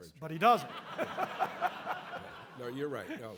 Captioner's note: audience laughing